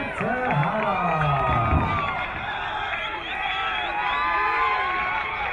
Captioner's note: crowd cheering